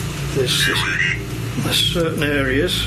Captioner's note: electronic voice